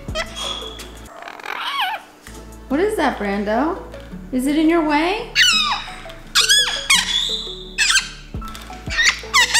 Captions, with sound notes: What is that, Brando? Is it in your way? (bird screeching)